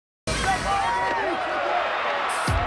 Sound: cheering

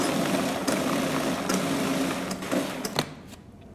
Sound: blender sounds

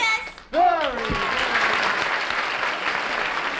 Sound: applause

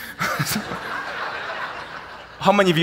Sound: laughs; audience laughing

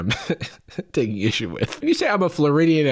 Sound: chuckles

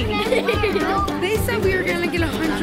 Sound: giggling

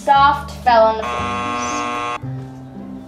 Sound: buzzer buzzing

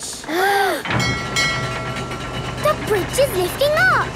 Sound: kids gasping; bell dinging

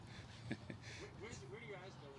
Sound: laughs

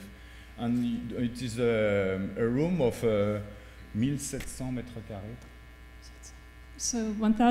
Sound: speaking french

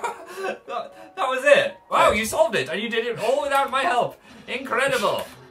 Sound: laughs; stutters

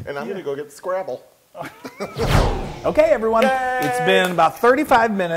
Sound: laugh

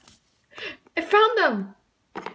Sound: gasp

